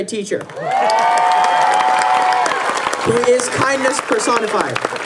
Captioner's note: applause